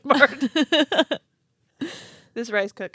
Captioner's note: laughing